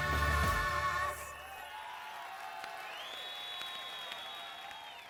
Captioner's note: cheers and whistles